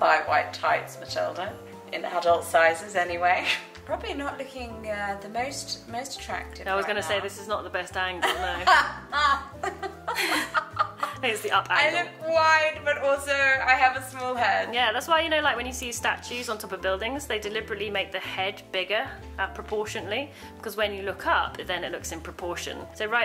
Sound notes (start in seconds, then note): 8.2 both laughing